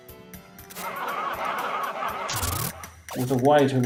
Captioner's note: soldiers laugh